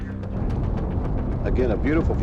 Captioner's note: rocket engine roaring